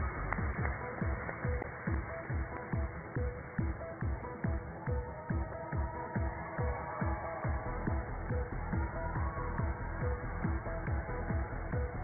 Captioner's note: cheers and applause